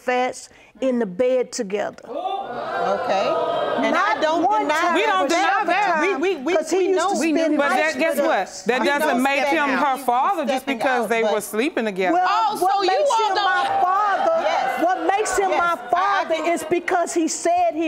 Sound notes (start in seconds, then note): 2.1 audience exclaiming; 2.1 all clamoring; 12.2 audience exclaiming